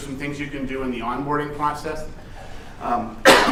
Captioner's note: coughs